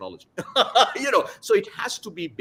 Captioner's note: laughs